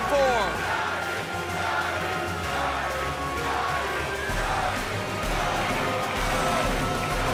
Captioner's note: fans chanting